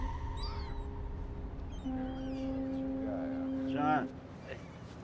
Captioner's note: seagulls squawking; boat horn blaring